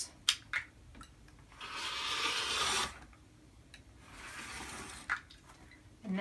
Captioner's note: rotary cutter slicing fabric